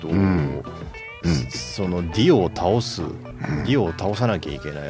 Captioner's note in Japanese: 咳払い